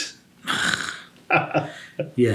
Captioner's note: laughs; scoffs